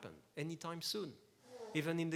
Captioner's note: snezz